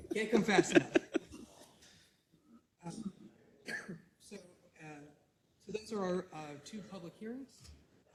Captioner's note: laugh